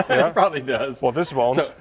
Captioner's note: laughs